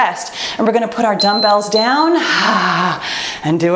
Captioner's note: timer beeps